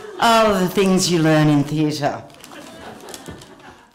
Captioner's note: laughter